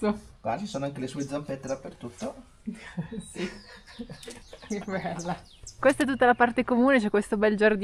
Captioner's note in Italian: risate